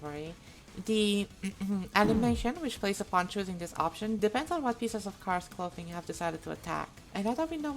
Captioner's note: ahem